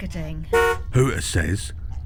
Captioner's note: hooter honks